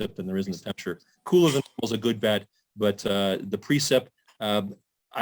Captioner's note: audio distorts